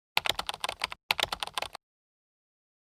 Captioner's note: typing